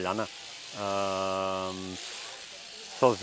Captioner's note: noise of shearing clippers